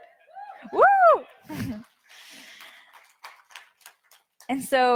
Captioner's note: audience cheers; cheers